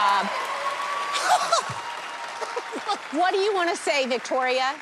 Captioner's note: laughs